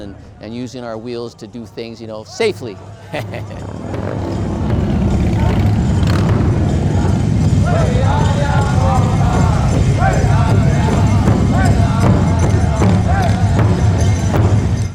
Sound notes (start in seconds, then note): 3.9 first Nations singing; 3.9 motorcycles rumbling